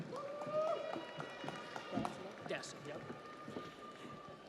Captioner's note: audience applauds; audience cheers